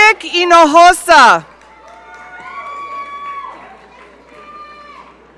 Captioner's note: audience cheering